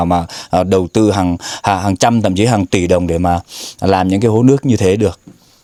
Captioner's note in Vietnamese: khịt mũi